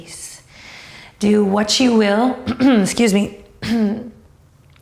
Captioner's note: clears throat